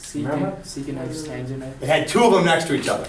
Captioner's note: voiceover